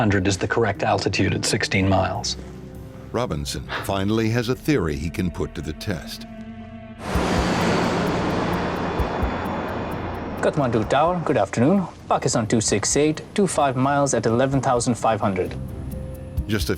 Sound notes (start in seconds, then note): 7.0 airplane engine roaring